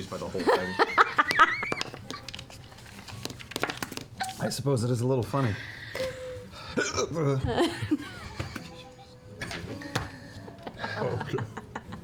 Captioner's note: hiccups